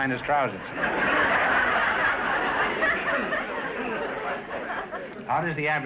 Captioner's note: audience laughter